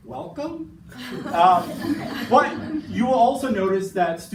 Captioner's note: participants laughing